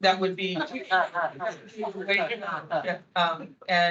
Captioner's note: attendees laughing